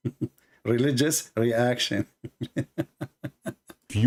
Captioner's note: Ketawa